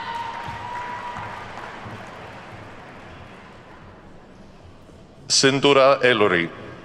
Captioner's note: attendees whooping and clapping